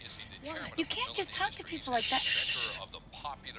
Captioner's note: man talking on tv